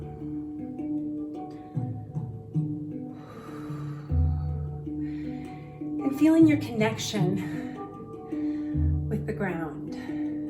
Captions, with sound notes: (exhales) And feeling your connection with the ground.